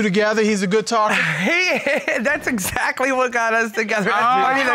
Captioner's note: chuckles